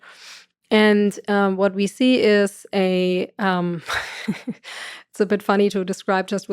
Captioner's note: laughs